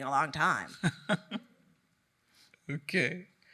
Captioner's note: laughing